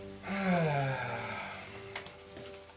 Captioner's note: sighs